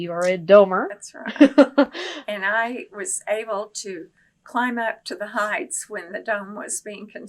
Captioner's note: laughter